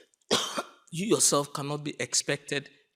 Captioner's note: coughing